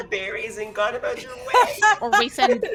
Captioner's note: laughs